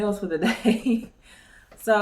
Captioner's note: chuckles